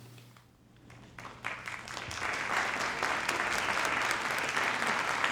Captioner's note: audience applauding